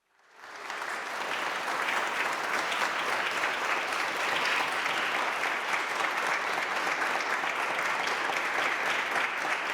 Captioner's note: applause